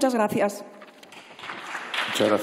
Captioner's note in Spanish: Aplausos